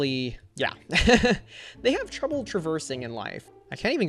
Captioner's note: laughs